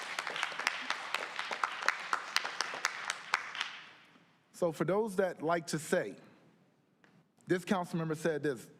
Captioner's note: applause